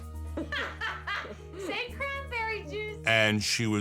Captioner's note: laughs